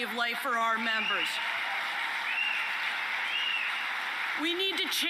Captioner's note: applause and whistling